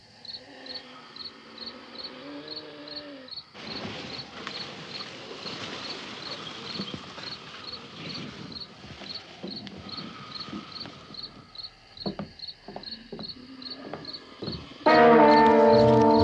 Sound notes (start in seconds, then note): 0.0 wheezing - groaning